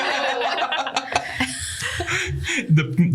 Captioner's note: laughter